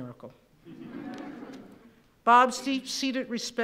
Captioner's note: laughing